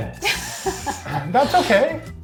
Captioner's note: laughs